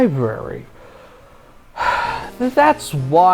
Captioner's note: sigh